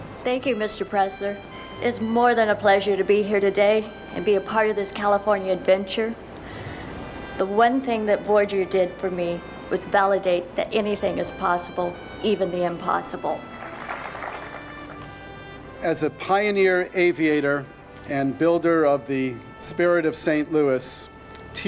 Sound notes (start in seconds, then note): 13.4 applause